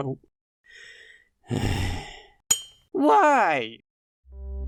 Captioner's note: sigh